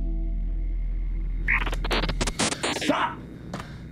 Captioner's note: digital noise